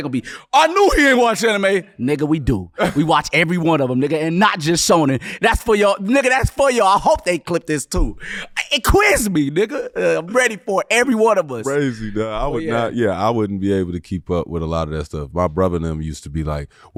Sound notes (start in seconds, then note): 2.7 laughing